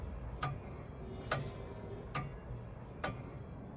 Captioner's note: clock ticking